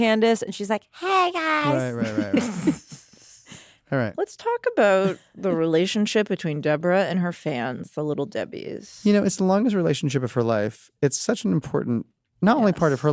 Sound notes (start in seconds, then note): 1.8 laughter